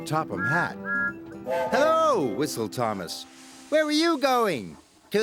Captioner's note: toots